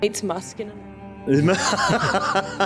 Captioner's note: laughing